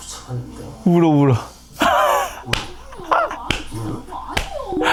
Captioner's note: bursts out laughing